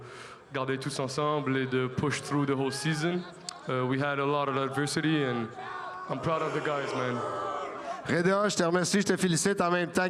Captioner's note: speaking French